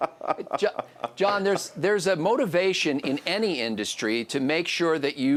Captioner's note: laughing; voiceover